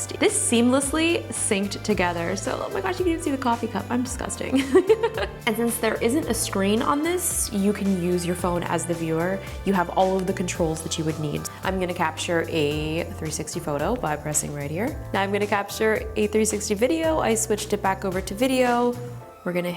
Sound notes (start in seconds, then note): 4.5 laughs